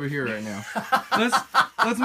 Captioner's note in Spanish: risa